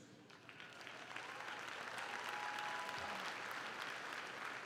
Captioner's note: crowd clapping